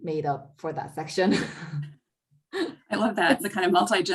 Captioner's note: laughs